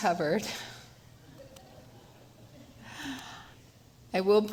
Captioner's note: laughter